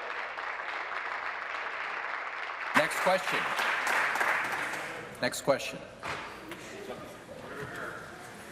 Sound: applause

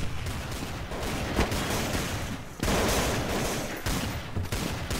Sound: gunshots

